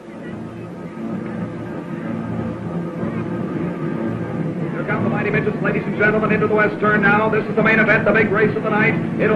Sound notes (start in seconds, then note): 0.0 dramatic music; 0.5 cars revving